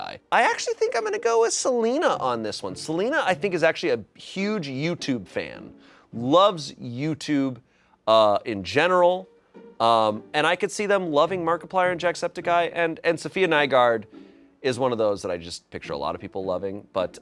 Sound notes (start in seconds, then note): none